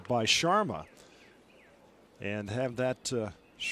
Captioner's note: applause